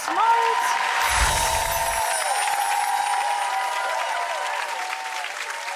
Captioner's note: audience applauds